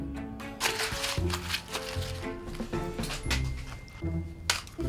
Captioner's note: paper crumpling